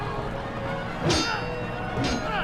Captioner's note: metal clanging